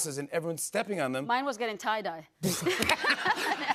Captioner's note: laughter